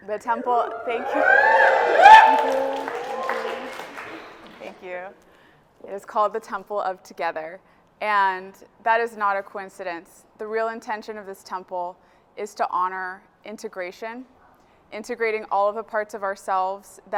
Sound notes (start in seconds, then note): 0.2 audience cheers and applauds